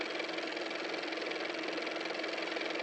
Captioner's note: car motor